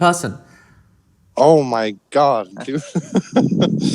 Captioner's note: laughs